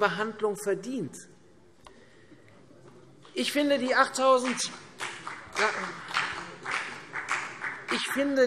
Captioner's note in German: Vereinzelter Beifall CDU